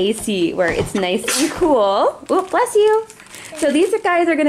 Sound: sneezes

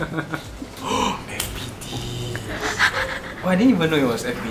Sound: gasps

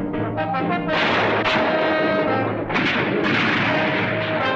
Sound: gunfire continues

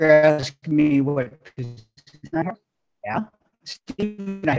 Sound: audio stutters

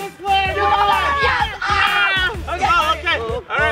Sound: cheering

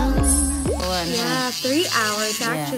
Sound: nail tool sound

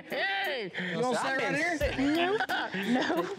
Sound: cackling

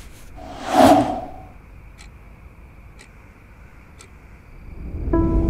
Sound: clock ticking

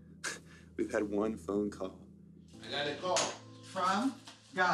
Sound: scoffs

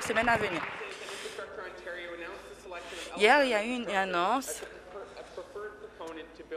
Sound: applause

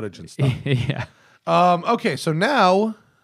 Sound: laughter

